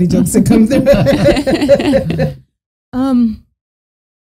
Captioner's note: all laughing